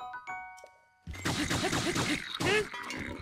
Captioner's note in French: grognements du Bokoblin